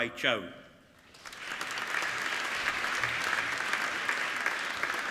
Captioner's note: applauding